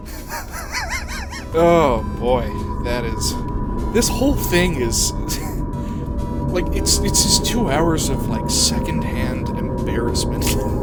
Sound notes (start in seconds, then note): 5.3 chuckling